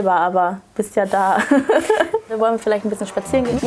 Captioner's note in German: Lachen